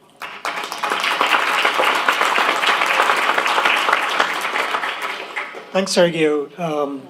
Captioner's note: applause